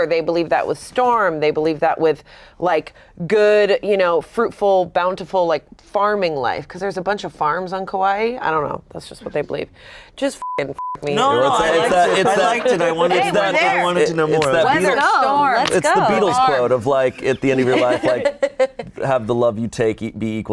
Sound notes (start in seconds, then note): 10.4 beep; 11.6 group laughs